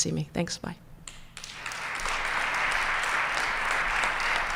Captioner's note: applause